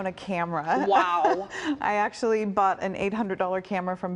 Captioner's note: laughter